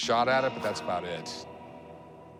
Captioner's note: none